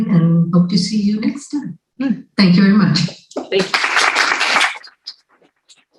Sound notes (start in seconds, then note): 3.5 applause